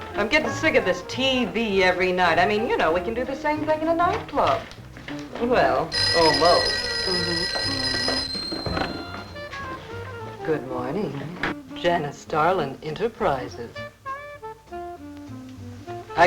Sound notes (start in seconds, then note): 5.8 phone ringing; 14.2 jazzy music